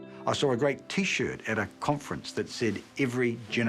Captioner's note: none